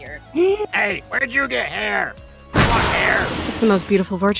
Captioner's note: explosion